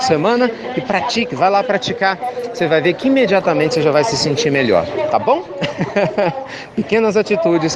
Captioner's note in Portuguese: Risos